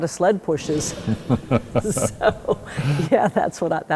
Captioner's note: chuckling